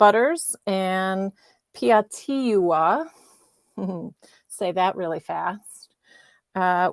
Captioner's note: chuckles